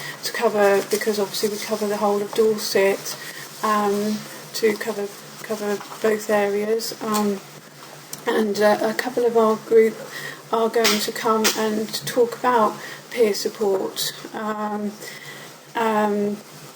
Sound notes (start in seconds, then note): none